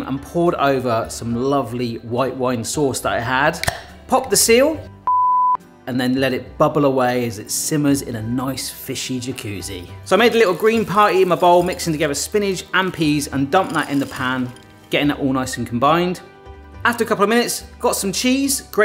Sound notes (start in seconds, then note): 3.6 lid pops; 5.0 beep